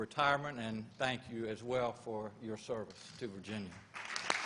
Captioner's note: applause